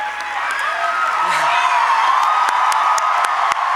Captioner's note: applause